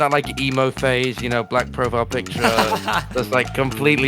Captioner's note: laughs